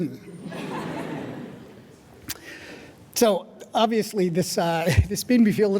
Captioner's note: audience laughing